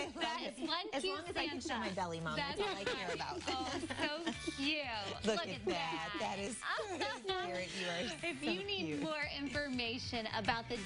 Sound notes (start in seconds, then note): 4.3 laughter